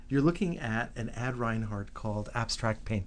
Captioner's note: voiceover